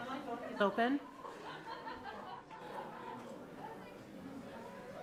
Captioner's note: speaking faintly off mic